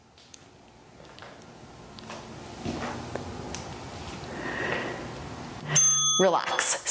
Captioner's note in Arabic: قرع الجرس